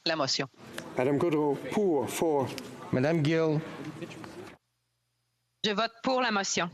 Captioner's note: speaking FRENCH